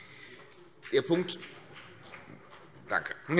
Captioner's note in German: Beifall CDU und BÜNDNIS 90/DIE GRÜNEN